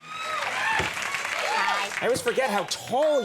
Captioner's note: applause